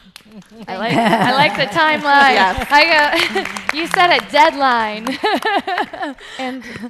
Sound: laughs

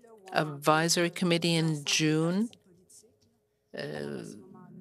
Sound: speaking French

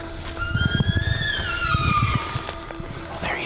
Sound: caller bugling

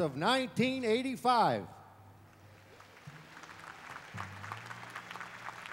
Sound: applause

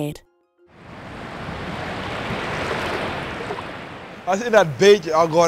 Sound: waves splash

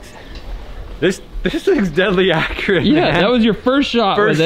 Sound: laughing

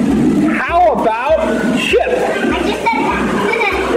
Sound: laughs

